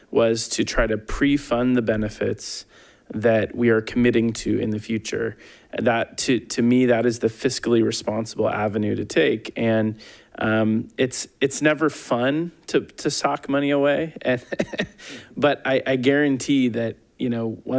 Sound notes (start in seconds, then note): 14.2 chuckling